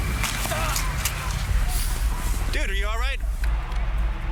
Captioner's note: protestor groaning